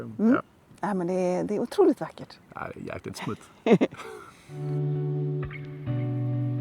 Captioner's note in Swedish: skratt